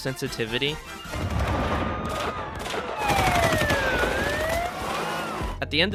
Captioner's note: gun shots and panic heard outside